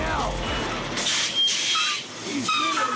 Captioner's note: hydraulics hiss